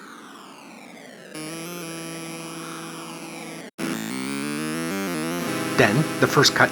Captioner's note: C64 wind gusting, then ominous music